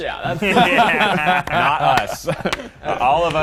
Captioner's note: all laughing